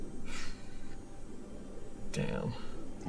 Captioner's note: Charlie blows air out